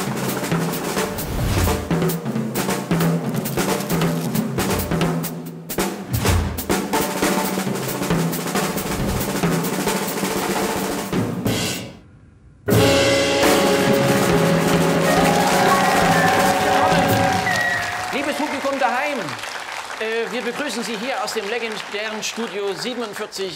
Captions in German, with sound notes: *schnelle Trommelmusik* *schnelle Trommelmusik* *Applaus und Jubel* Liebes Publikum daheim! Wir begrüßen Sie hier aus dem legendären Studio 47,9.